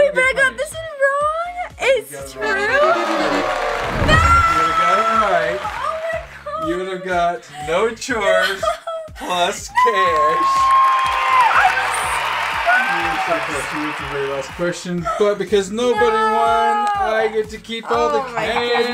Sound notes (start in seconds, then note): 2.4 descending tones; 2.8 applause; 9.8 cheering applause